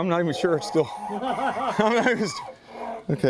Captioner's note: chuckles; laughter